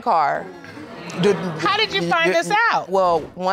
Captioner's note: crowd gasping